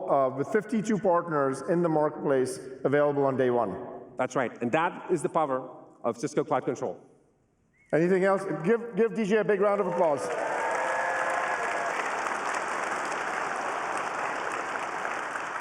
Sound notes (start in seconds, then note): 9.6 applause